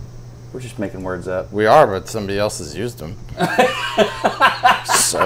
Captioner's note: laughs